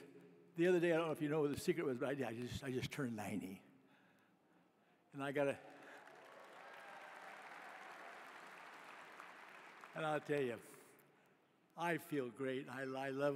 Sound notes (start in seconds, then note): 5.4 applause